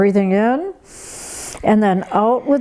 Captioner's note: breathes heavily